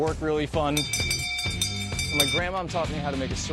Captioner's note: bell ringing